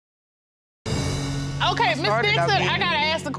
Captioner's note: audience gasps